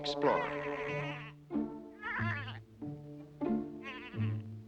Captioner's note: braying